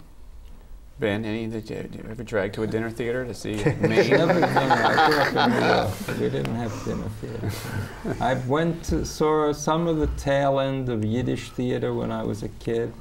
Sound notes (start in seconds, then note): 3.5 laughter